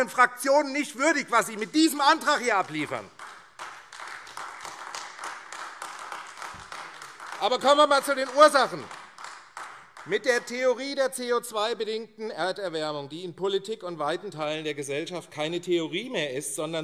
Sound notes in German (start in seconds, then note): 2.3 Beifall AfD